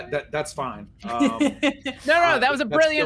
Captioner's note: laughing